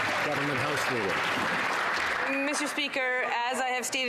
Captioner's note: some Applause